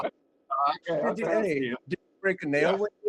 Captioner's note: laughing